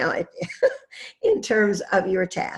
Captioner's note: laughs